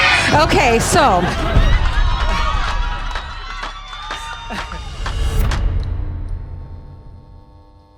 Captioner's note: laughter and music